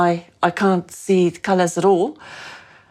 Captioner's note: none